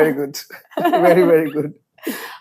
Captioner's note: laughs